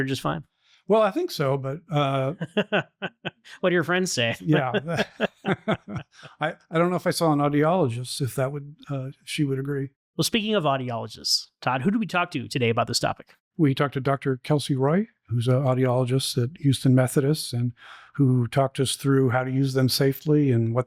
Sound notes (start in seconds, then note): 2.0 laughter